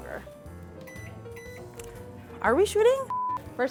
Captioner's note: beeping